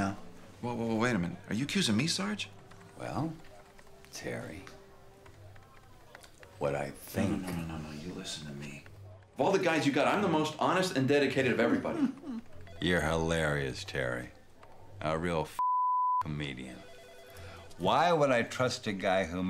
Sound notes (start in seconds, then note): 11.4 laughs